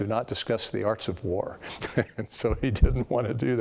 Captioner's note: laugh